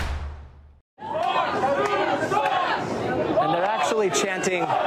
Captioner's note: dramatic percussion; crowd